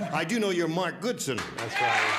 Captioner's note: cheers and applause